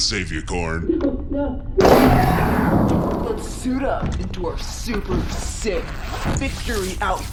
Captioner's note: sound of escape pod being ejected